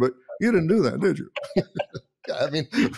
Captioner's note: both laughing